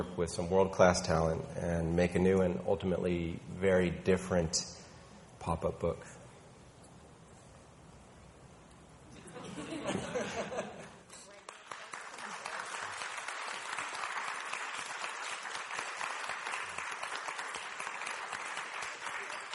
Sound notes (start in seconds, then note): 9.2 people laughing; 11.4 audience applauding